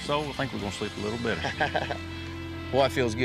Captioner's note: happy laughter